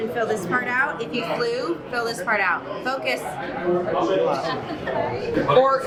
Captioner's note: laughing